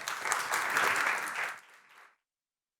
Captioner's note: applause